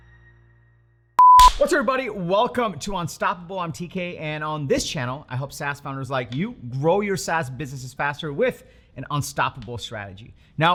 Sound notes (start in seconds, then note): 1.2 beep